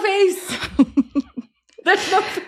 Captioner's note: laughs